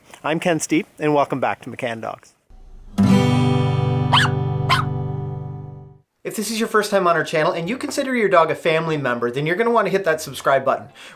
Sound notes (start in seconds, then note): 2.5 guitar strum; 4.1 dogs barking